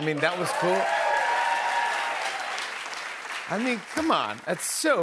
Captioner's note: cheers and applause